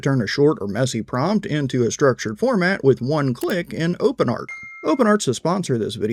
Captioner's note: bell ringing